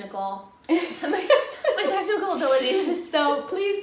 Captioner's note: laughter